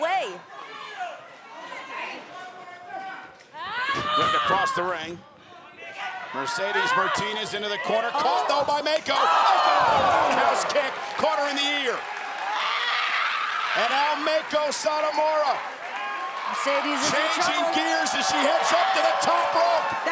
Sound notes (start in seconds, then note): 12.1 applause